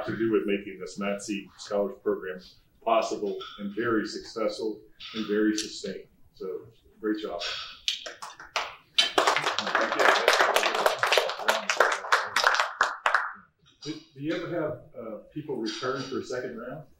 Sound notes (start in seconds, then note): 8.9 applause